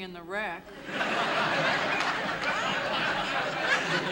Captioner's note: laughter